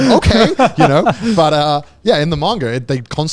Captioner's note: group laughing